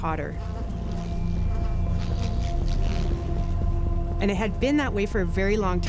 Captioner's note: insects buzzing